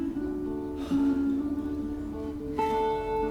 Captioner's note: sighs